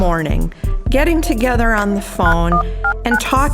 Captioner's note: phone ringing; touchpad keys beeping